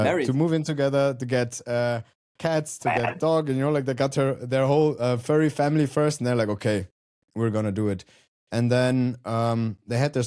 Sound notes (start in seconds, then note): 2.9 chuckles